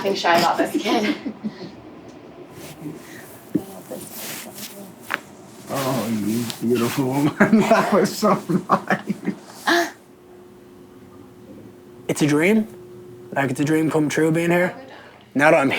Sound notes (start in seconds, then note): 0.8 Garry laughing; 5.2 neck snaps; 7.1 laughing